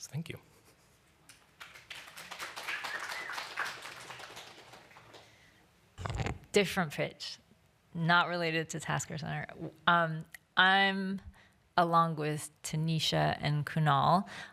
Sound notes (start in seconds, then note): 1.5 applause